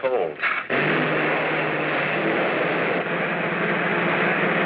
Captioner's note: engine roaring